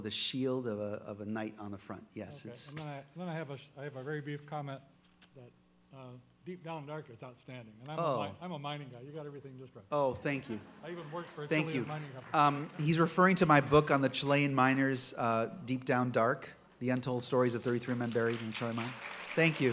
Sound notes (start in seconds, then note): 10.0 voiceover; 19.1 applause